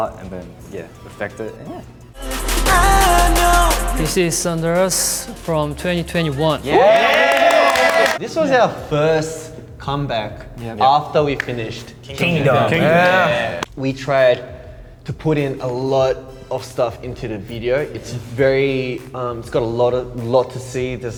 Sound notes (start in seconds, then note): 6.6 cheering